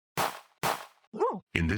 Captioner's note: gunshots